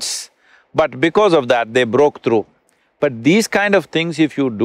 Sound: none

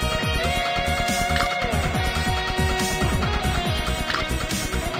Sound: gnashing teeth

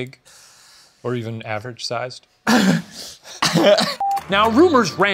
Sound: scoffs

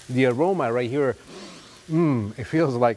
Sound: sniffs

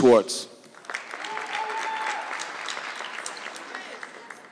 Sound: audience clapping

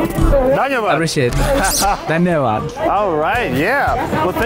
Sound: laughs

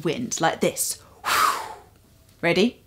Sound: blow

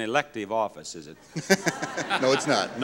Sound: audience laughs

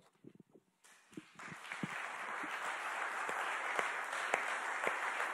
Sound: audience clapping

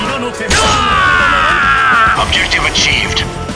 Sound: KO Scream

